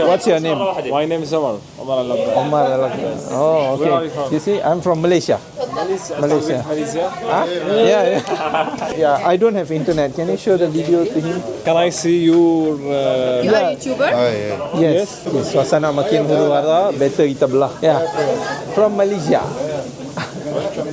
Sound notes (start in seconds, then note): 7.4 laugh